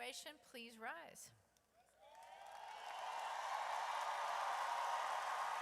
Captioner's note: audience cheers